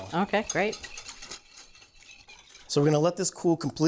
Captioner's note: whisk rattling